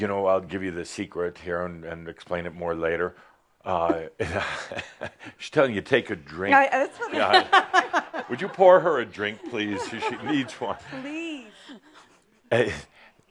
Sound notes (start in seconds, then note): 7.1 laughter